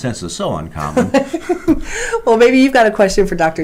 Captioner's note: laughs